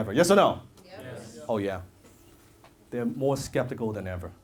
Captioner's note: audience says yes